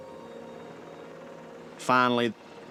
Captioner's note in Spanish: helicóptero zumbando